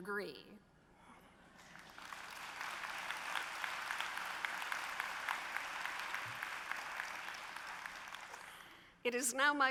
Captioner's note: applause